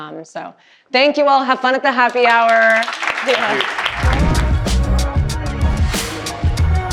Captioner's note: audience applauding